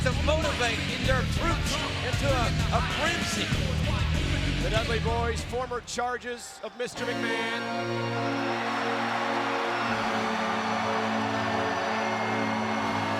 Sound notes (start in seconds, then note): 6.0 audience cheering; 6.9 gothic music